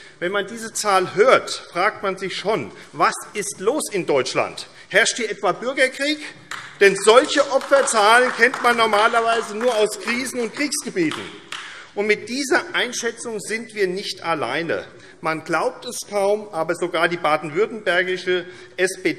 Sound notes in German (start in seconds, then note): 6.4 Beifall AfD